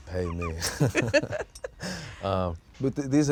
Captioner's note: both laughing